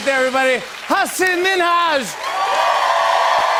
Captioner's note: cheers and applause